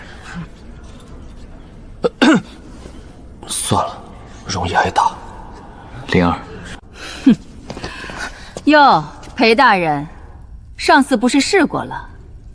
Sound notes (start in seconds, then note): 1.9 cough